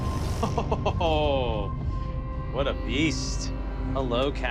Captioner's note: laughs